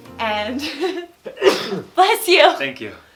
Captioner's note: sneezes